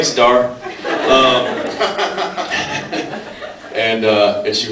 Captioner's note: laughs